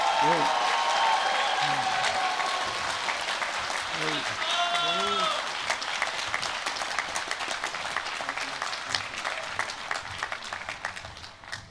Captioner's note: applause